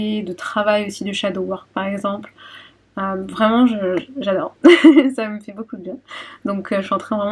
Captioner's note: laughs